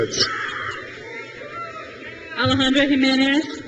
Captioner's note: crowd cheers